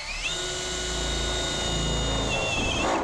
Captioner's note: drilling noises